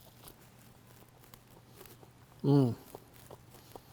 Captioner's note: chewing